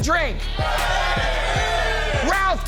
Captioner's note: crowd cheering